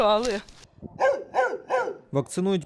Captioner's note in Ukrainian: Гавкіт собак